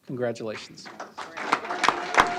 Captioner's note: applause